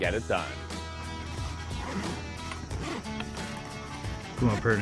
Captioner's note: bag unzipping